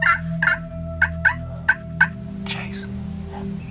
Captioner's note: whispering